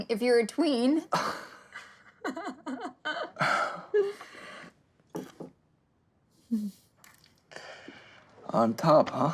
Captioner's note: laughing